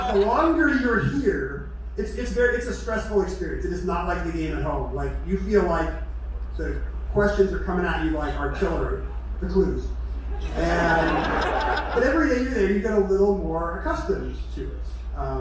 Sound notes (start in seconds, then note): 10.1 crowd laughter